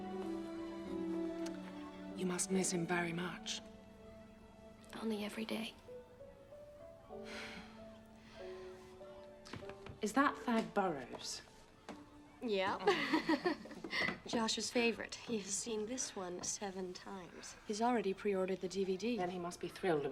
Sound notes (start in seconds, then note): 12.8 laughs